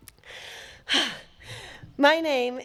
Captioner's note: breathe whooshes